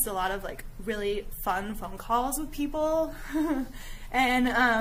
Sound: giggling

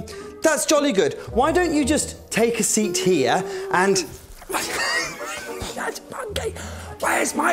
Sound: Nervously whispers to Monkey

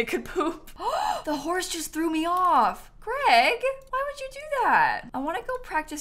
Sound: gasps

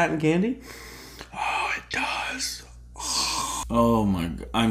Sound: sniff

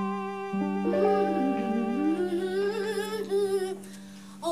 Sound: Lupita humming

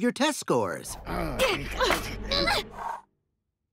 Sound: growling

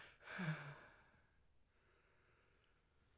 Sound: sigh

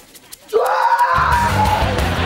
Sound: screaming

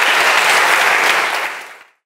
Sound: audience applauds

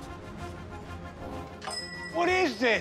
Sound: bell on door jingles

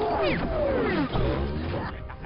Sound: whirring

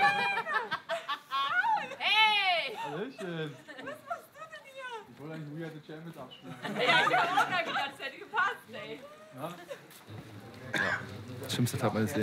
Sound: laughter

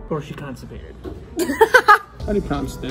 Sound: laughs

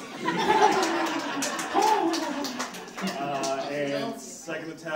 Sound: audience laughs

